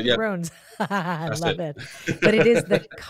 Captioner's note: laughs